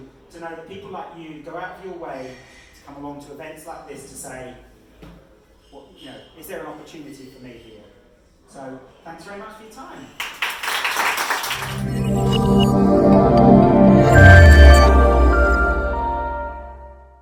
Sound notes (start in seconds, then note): 10.2 audience applauds; 11.6 chill electronic music